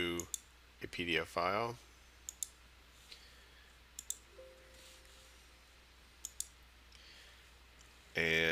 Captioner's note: sound of mouse clicking